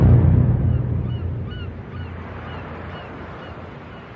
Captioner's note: seseagulullsls cawaw